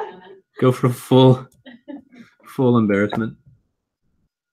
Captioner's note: laugh